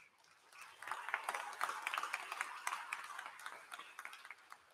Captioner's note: applause